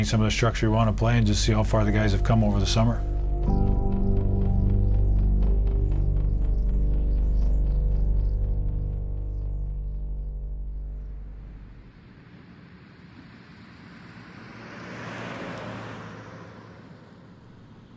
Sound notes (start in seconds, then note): 10.9 cars passing